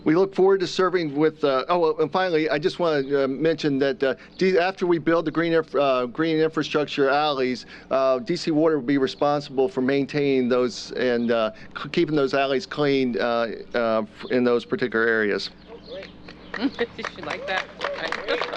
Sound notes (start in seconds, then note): 16.5 applause